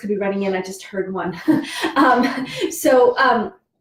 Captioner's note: laughs